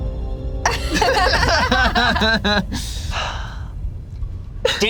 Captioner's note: group laughs